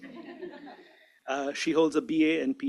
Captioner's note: laughter